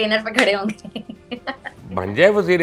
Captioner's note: laughs